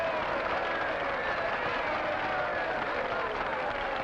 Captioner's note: crowd applauding; crowd cheering